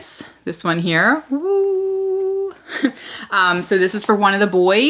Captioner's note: laughs